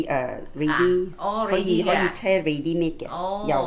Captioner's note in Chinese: 廣東話